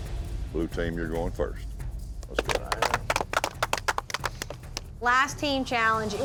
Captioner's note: everybody clapping